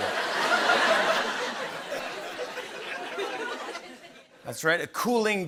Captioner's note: laughter